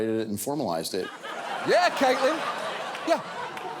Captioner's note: audience laughing